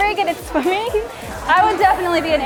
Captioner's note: laughs